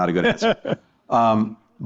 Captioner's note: laughter